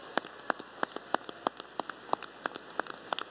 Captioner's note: applause